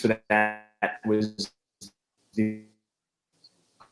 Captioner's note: murmurs